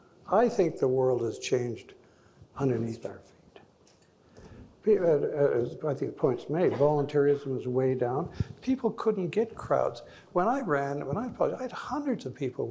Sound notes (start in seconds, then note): 4.7 stammering